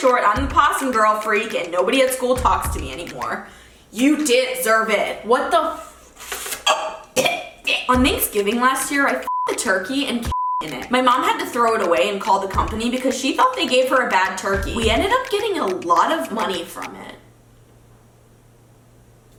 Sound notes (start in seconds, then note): 6.6 gags; 10.2 beep